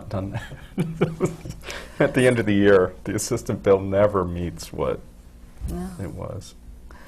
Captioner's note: laughs